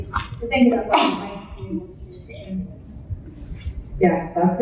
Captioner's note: audience member sneezes